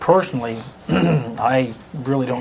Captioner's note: clears throat